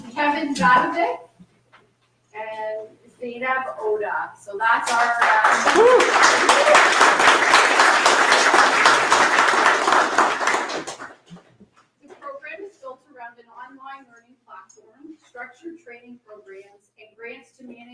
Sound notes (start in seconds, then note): 4.8 audience applauds